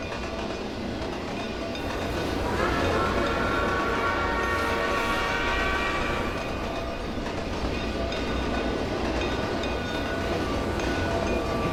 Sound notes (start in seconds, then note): 2.2 NH I5 whistle; 2.3 bell ringing